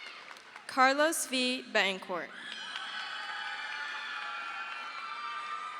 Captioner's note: crowd cheers